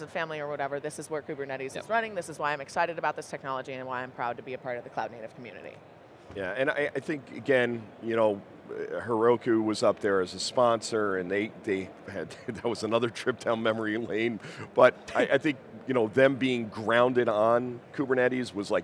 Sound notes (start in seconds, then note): 11.9 chuckles; 15.5 chuckling